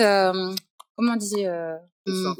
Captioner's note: speaking in French